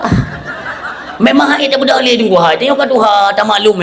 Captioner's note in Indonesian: tertawa